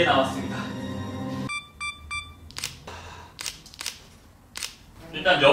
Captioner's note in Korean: 찰칵